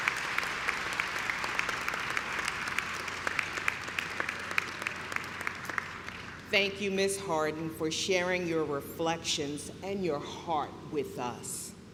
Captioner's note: clapping